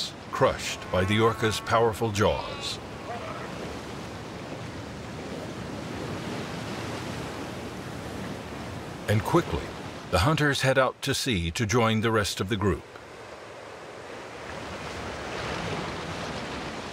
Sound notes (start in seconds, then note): 2.8 waves crash; 14.5 waves crash